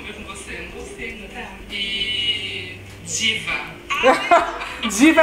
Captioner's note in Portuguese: risos